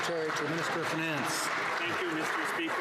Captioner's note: some Applause